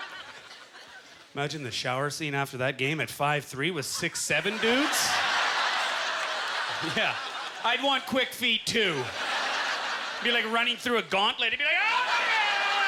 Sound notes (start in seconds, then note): 4.7 audience laughter; 12.6 applause